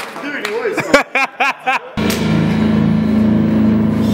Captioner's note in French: rires